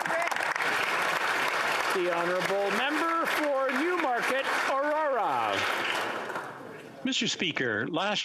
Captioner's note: applause